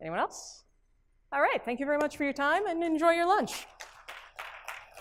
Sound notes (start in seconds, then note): 3.7 applause